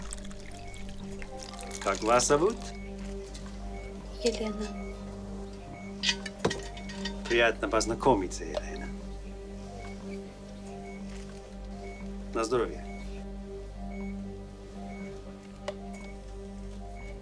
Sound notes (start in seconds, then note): 3.7 speaking Russian